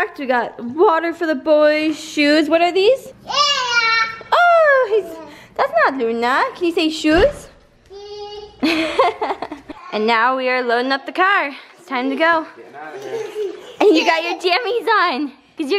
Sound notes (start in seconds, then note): 8.5 laughing